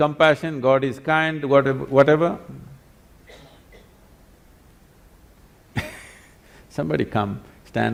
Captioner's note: laughs